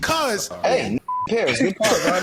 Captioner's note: beep